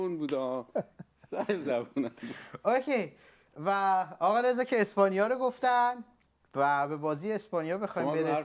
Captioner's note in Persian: خنده